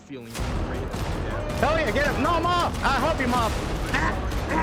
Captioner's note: interrupted by gunshots; screaming